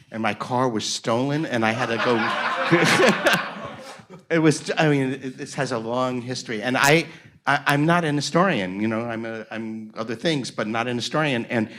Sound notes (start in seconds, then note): 1.7 everyone laughs